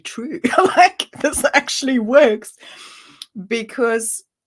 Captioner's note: laughs